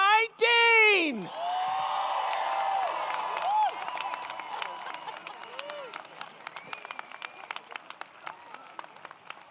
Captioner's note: applause